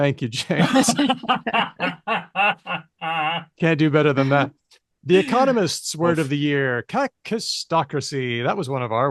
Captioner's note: laughter